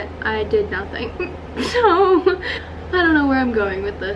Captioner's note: laugh